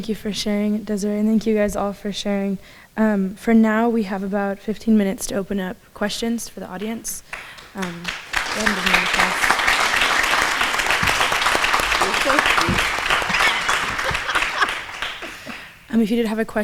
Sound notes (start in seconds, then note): 10.7 applause; 12.0 laughs